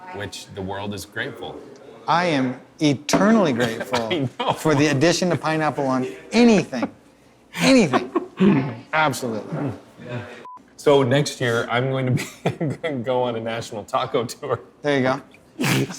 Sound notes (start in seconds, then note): 10.1 beeping